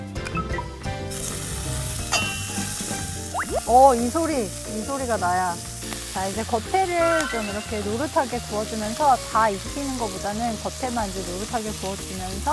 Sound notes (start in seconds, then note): 3.2 sizzling